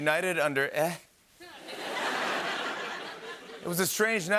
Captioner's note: laughter